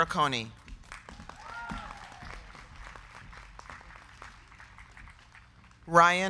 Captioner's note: crowd clapping; crowd cheering